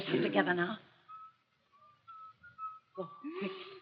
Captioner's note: whistles